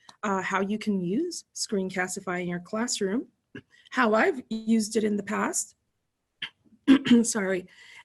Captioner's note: clears throat